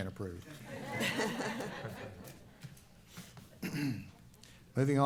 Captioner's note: laughing